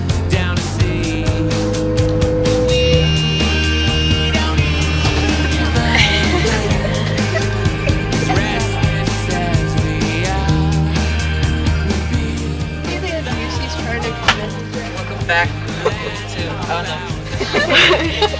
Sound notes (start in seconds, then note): 5.8 giggle; 14.3 smack